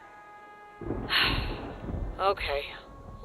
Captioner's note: sigh